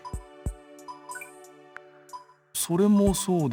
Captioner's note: silence